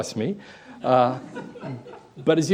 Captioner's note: laughter